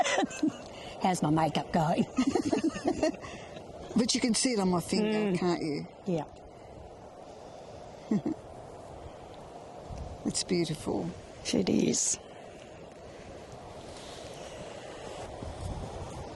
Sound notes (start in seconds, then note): 8.0 laughs